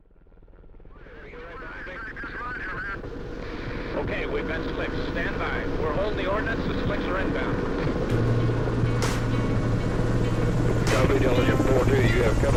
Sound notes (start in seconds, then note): 1.0 helicopter sounds; 4.4 voice Over A Radio; 11.1 second Voice On Radio